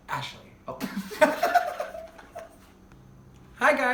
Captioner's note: laughing